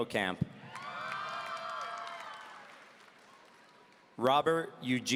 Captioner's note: audience cheering